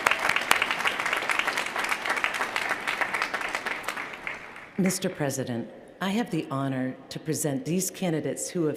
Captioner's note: cheers & applause